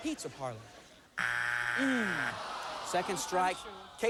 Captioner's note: buzzer